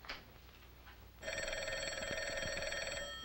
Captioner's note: ringing phone